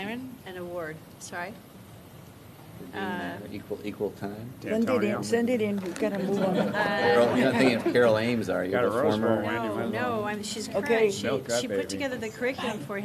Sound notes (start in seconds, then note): 6.3 laughter